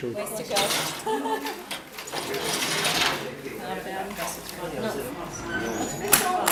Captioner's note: background conversations